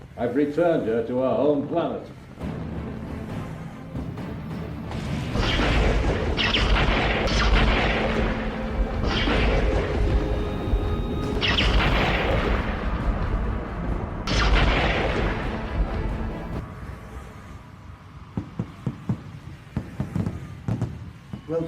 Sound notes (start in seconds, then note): 3.5 slow dramatic music; 5.6 lightening crackles; 17.7 fireworks popping